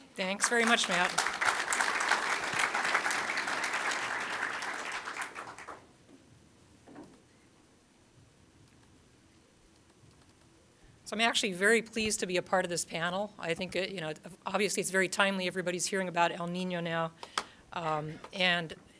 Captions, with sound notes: >> THANKS VERY MUCH MATT. [ APPLAUSE ] SO I'M ACTUALLY VERY PLEASED TO BE A PART OF THIS PANEL. I THINK THAT, YOU KNOW OBVIOUSLY IT'S VERY TIMELY. EVERYBODY IS HEARING ABOUT EL NINO NOW